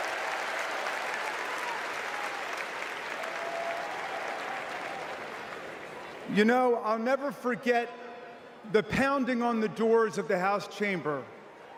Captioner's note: applause